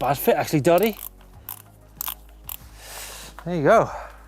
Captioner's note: clicking